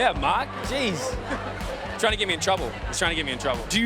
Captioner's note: chuckles